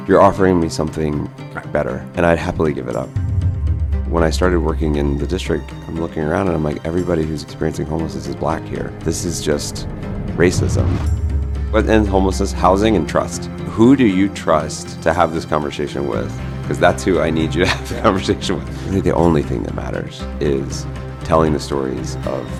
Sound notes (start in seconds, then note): 3.4 dramatic music; 10.7 dramatic music; 17.5 chuckles